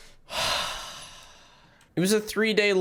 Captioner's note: sigh